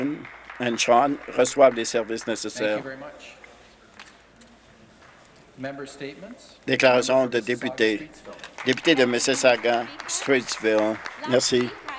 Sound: some Applause

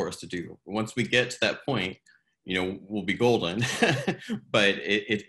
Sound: chuckles

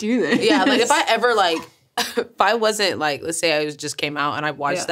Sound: laughs

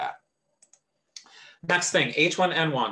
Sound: mouse clicks

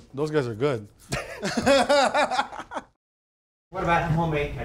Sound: laughing

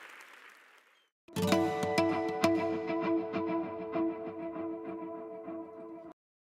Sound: applause

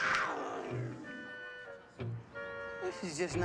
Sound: mountain lion snarling

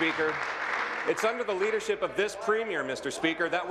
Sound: applause

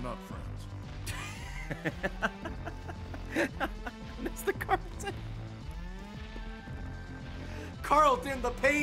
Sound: laughs

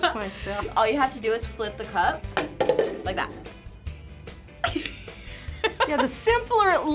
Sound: laughs

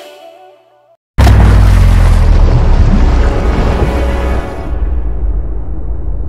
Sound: explosion; tense tone

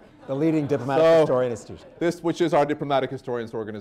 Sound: laughter

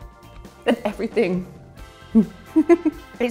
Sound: giggles

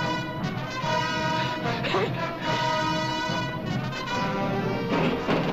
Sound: gunshot

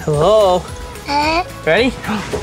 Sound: laughs

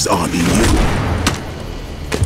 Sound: thwack; bdumpf

